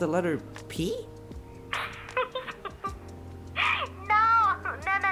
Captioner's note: laughs